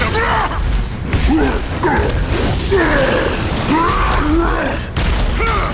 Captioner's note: grunting